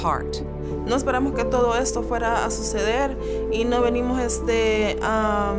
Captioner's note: speaking in foreign language